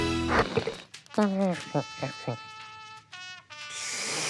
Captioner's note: Hums in Derp-lish; slerps coffee